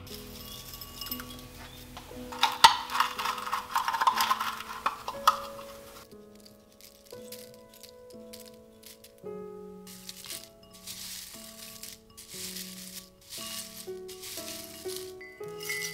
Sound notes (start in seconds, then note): 0.1 sprinkling; 2.6 box clinks & cocoa shells rustle; 10.5 tea ingredients rustle together